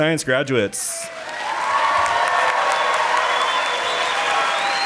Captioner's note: audience applauding